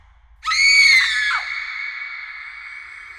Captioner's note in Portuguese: grito